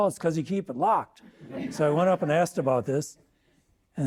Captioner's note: audience laughing